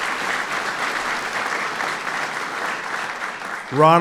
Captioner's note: applause